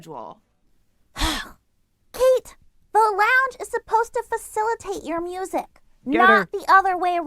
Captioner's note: scoffs